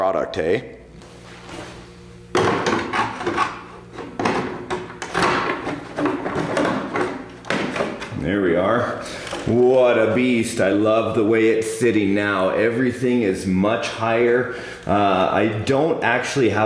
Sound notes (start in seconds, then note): 4.3 body rattling